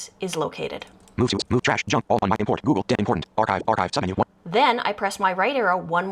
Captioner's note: VoiceOver reads menu items